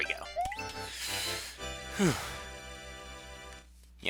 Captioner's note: breathing